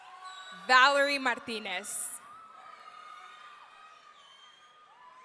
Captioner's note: audience cheering